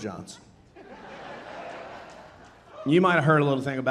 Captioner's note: audience laughing